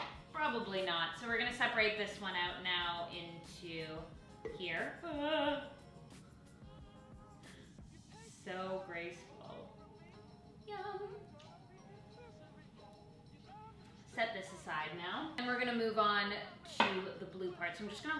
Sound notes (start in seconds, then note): 4.9 groaning